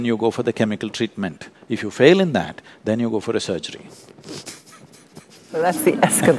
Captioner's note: laughs